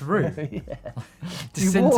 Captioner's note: laughing